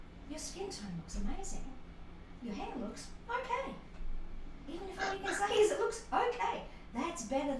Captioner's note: laughter